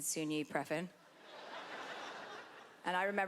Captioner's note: laughter